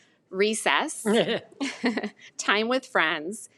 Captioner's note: both laughing